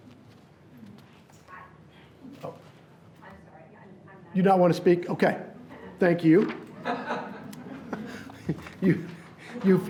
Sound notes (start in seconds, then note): 1.1 person speaking off mic; 4.8 person speaking off mic; 6.8 laughs